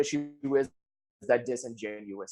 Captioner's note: audio cuts out